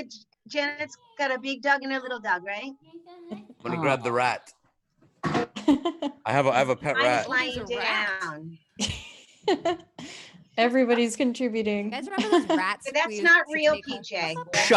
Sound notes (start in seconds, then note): 5.6 laughs; 9.4 laughs